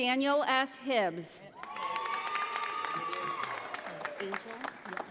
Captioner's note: audience applauding